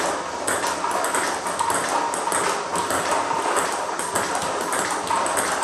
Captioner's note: ball ping pong hitting continues